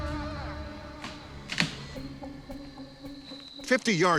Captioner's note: tree creaking